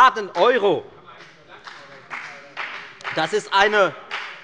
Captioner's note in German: Beifall bei der FDP